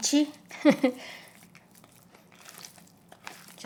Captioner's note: chuckling